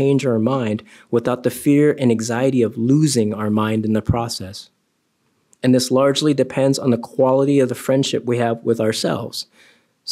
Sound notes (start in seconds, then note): none